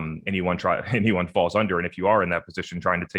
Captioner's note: chuckles